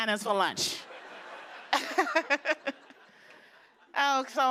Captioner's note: laughter